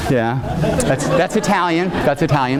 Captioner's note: audience laughing